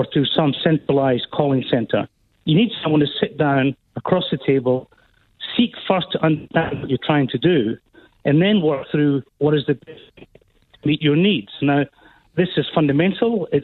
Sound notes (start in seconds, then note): 9.9 technical feedback disrupts speaker